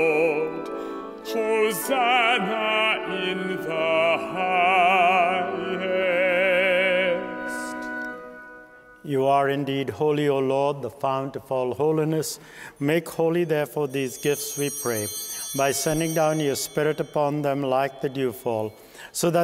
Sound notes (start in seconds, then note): 15.4 bell ringing